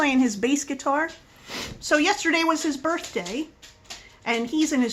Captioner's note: sniff